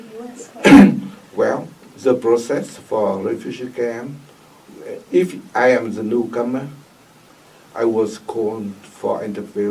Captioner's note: coughs